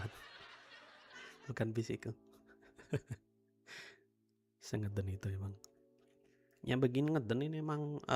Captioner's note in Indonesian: tertawa